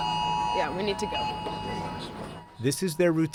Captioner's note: sirens blaring